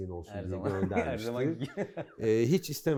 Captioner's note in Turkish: chuckles